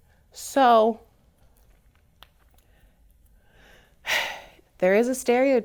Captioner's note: sighs heavily